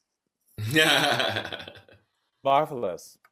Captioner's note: laughs